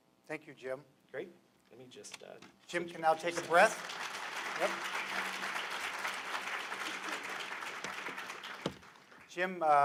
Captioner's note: applause